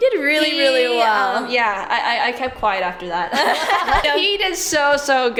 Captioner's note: laughs